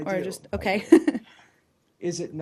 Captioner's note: laughter